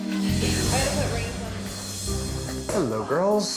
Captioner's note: contestants chattering